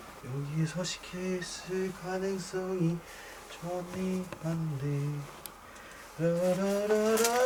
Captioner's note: he enjoys humming